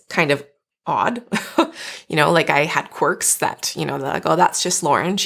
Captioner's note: chuckling